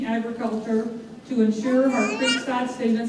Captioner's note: baby babbling